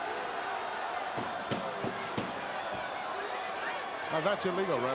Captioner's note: crowd murmuring